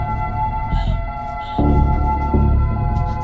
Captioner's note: gasping, sobbing